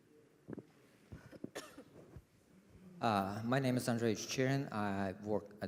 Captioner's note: cough